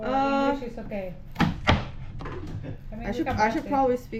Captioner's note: onion chop chop